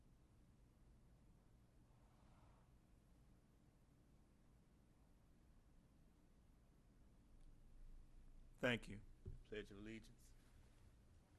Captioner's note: moment of silence